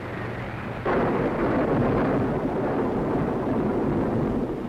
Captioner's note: thunderstorm